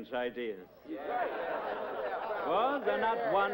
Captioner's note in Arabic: يضحك أعضاء مجلس الشيوخ